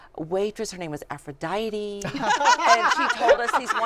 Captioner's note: laughter